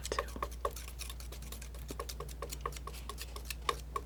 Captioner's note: scratching